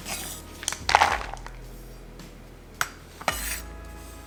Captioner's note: sound of chocolate pieces being poured into bowl